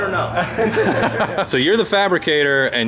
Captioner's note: laughter